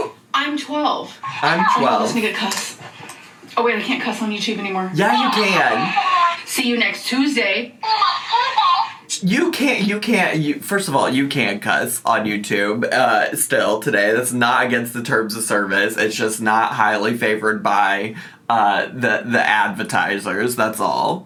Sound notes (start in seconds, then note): 1.0 laughing